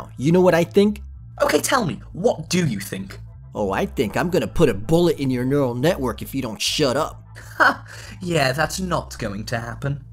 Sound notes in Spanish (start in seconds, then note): 1.4 con voz masculina; 7.6 con voz masculina, ríe